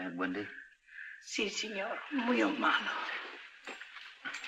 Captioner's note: in spanish